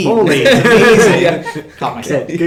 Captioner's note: laughing